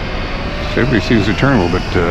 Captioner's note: electric motor sounds